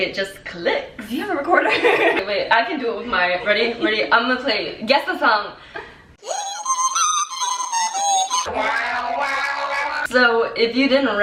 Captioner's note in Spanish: suena la grabadora